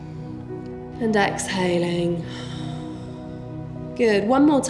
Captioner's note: heavy breathing